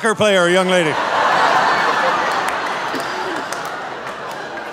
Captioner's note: audience laughing